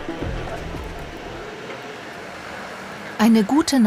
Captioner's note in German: Stimmengewirr